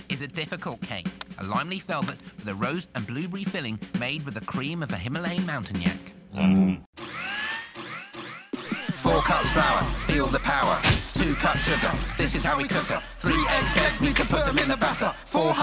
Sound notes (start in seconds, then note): 6.3 yak moans; 7.2 blender buzzes